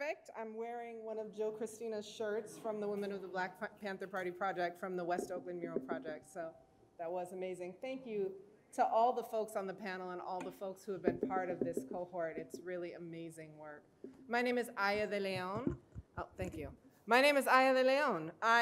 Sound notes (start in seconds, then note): none